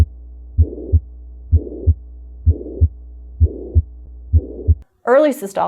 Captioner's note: heart beating